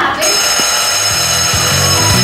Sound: bell

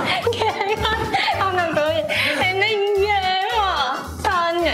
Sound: Finally JangMi bursts into laughter

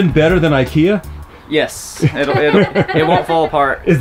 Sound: laughing

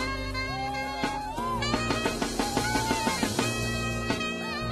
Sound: audience cheering

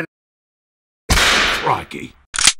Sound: whip sound

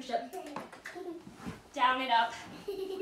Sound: kisses; laughs

